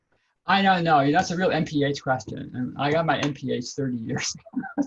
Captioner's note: laughs